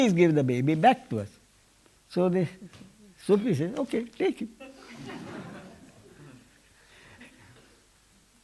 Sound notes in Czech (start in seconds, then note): 4.6 smích